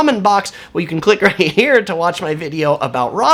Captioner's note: chuckles